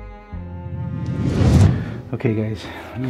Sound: air whooshes

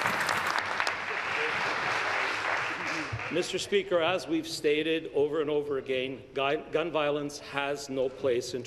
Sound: applause

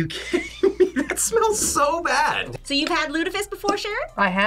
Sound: laughs

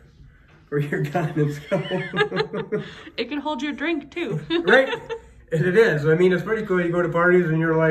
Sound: laughs

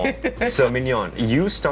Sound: laughs

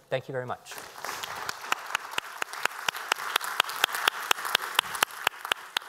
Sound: applause

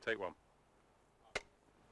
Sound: clap

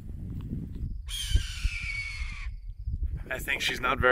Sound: eagle screech

